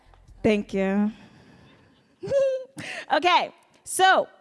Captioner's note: giggles